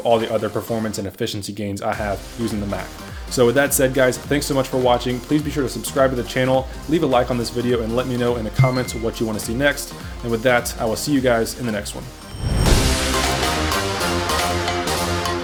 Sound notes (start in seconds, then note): 8.6 bell chimes; 12.7 upbeat music